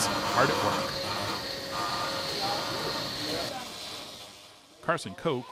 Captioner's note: machine whirring